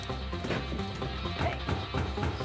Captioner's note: knock on door